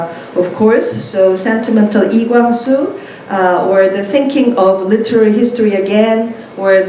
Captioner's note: korean